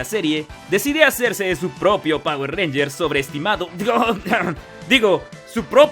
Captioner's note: coughs